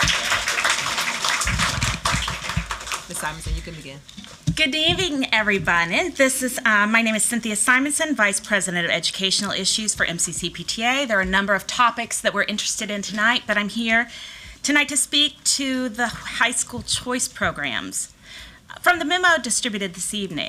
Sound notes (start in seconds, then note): 3.1 applause